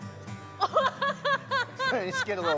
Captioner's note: laughter